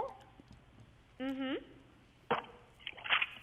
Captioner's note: lady interjects